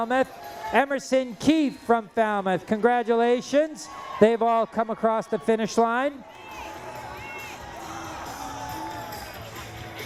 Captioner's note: cheering